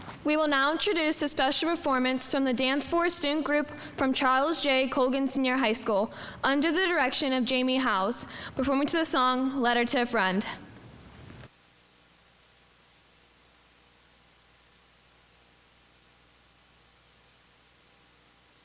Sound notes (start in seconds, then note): none